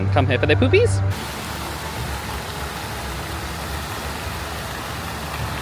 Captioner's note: water splashing